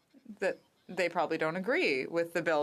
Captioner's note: speaking French